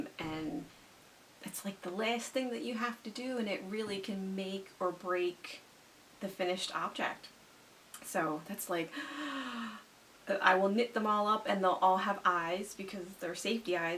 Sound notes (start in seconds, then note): 8.9 gasps